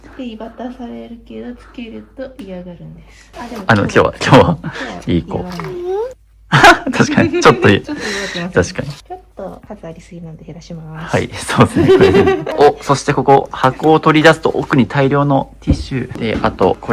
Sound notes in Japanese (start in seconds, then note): 11.6 笑い